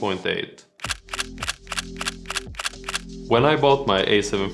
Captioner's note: click